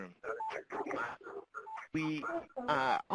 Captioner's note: background chatter